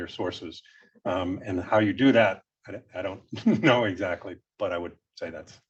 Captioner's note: laughs